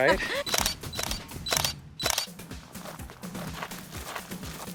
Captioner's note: laughing; shutter clicking